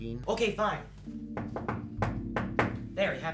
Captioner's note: knocks